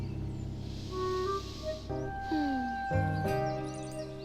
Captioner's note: mom inhaling deeply